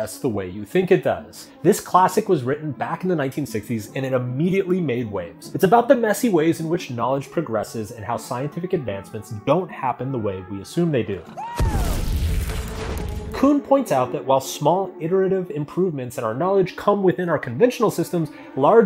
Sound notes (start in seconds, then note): 11.5 explosion booms